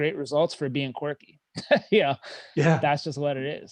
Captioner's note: laughing